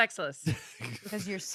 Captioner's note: laughs